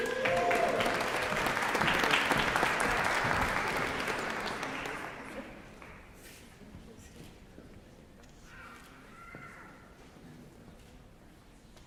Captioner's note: applause